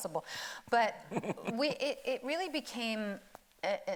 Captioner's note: laughing